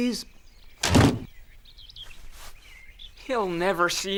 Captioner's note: door slamming